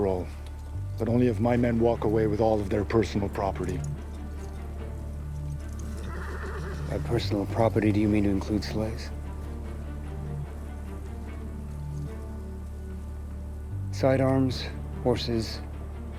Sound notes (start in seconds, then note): 5.8 horse neighing